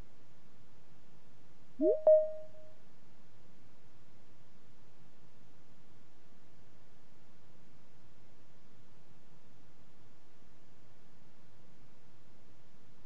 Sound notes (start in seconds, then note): 1.8 digital chime